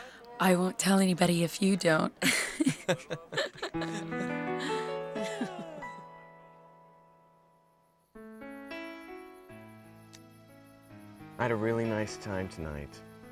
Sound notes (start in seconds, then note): 1.9 Carmen and Andrew laugh; 8.1 romantic music